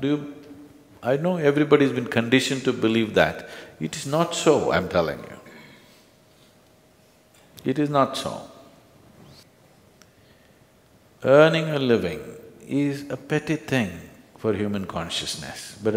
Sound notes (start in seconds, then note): none